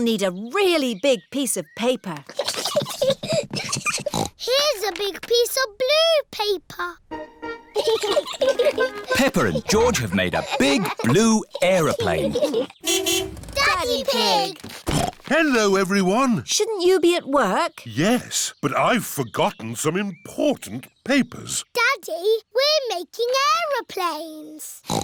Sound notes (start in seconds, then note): 3.9 snorts; 7.7 both giggling; 12.8 horn honks; 14.9 snorts